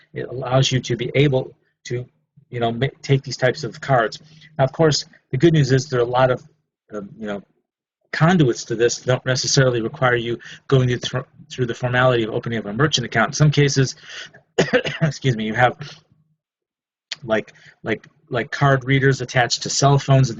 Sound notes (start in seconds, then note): 14.5 coughs